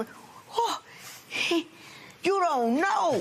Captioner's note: gasping